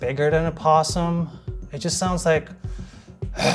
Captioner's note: growls